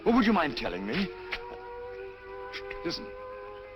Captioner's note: air raid sirens